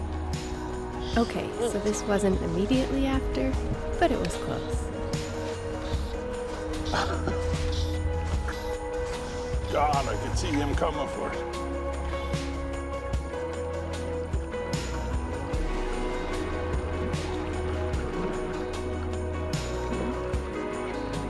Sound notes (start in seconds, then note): 5.8 upbeat music; 6.8 chuckling; 16.1 upbeat music